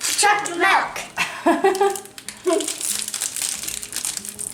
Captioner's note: laughing